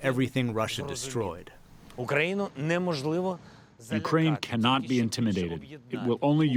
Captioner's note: through translator